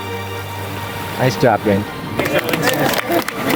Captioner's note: group cheering